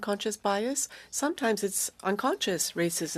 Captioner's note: speaking french